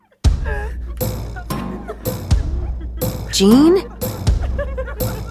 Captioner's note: patients laughing